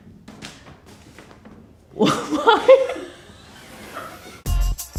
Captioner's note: laughter